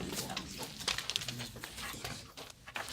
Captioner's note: students murmur